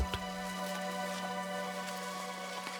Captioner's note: rustling